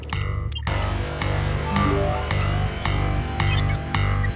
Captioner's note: radar beeping; text chirping; robot whirring; tense suspenseful music